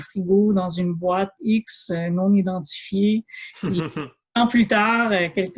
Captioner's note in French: rires